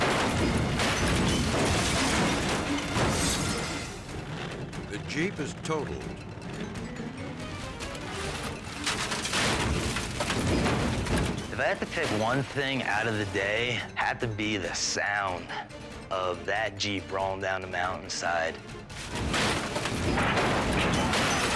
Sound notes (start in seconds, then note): 0.1 Jeep crashing; 7.6 chaotic music; 9.0 Jeep crashing; 18.2 Jeep crashing